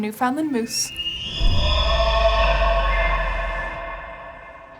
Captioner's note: moose calling